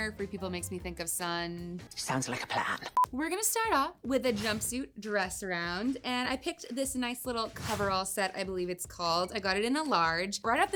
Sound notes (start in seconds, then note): 2.9 electronic beeping; 4.1 air whooshing